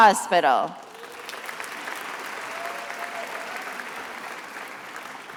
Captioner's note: attendees applauding